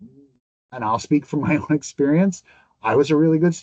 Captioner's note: laughs